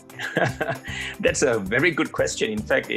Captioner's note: laughs